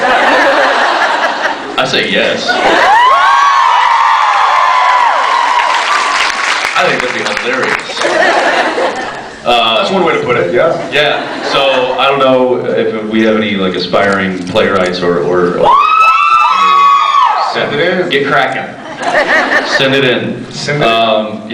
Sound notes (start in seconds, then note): 0.0 laughs; 2.6 cheers, applauds; 7.7 laughs; 7.8 applauds; 15.6 several screams; 19.0 scattered laughs